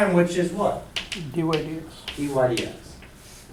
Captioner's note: voiceover